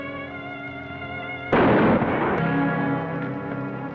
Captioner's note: gunshot